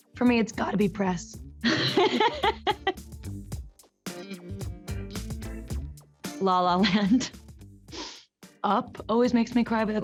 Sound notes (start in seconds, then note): 1.6 Camila laughs; 3.3 upbeat music